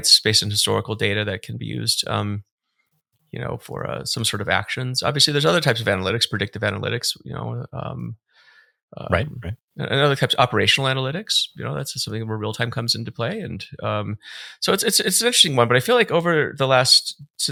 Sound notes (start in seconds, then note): none